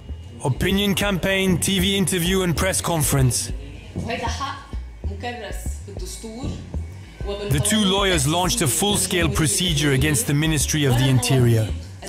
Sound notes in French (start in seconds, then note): 4.2 Arab spoken audio